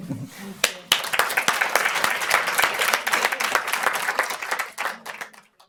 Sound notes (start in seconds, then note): 0.6 audience applauding